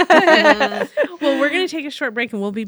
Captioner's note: laughing